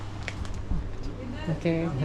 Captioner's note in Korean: 긁적긁적